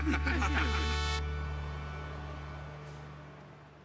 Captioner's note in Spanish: risas